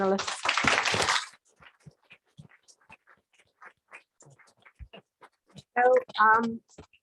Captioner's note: applause